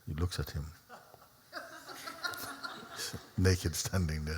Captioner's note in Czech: Smích